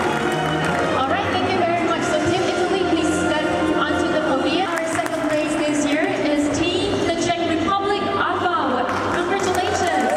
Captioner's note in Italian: Applauso